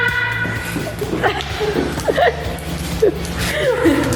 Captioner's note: laughing